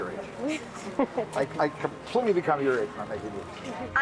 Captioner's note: chuckles